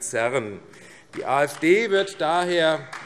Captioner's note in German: Beifall AfD